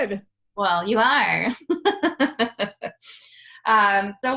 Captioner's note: laughs